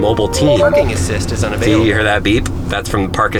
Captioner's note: car voice